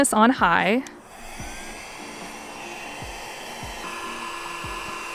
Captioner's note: air whooshing